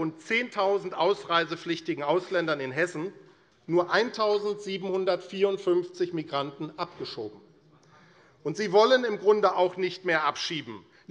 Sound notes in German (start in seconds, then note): none